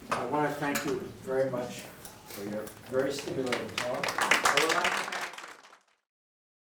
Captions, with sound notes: - I want to thank you very much for your very stimulating talk (audience clapping)